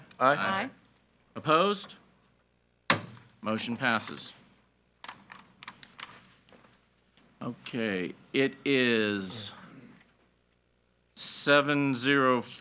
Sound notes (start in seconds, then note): 2.9 gavel bangs